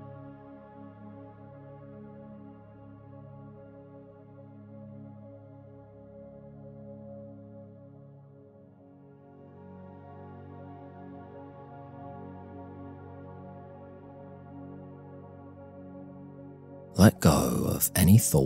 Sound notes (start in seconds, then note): 5.3 15s silence